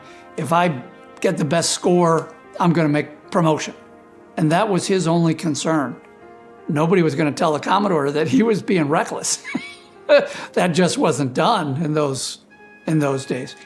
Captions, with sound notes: if I get the best score, I'm going to make promotion. And that was his only concern. Nobody was going to tell the Commodore that he was being reckless. (laughs) That just wasn't done in those in those days.